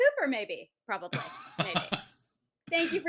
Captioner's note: laughs